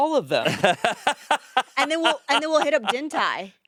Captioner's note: laughing